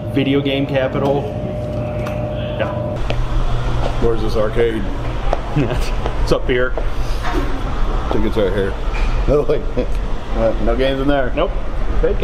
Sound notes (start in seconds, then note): 9.6 chuckles